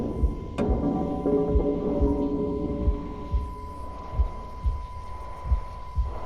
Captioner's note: metal thudding; heart beating; high pitched ringing